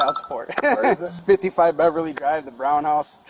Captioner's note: laughing